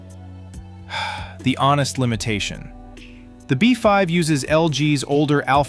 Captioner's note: sighs